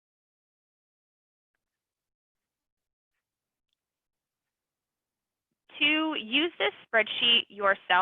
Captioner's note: silence